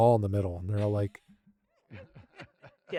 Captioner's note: laughing